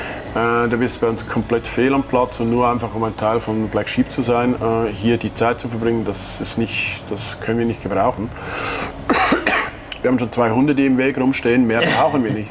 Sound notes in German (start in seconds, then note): 9.0 hustet; 11.8 lacht